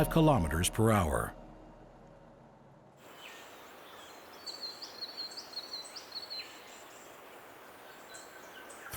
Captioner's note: birds chirping